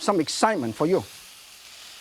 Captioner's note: sizzling, cooking sounds